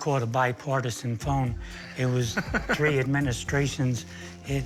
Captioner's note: laughing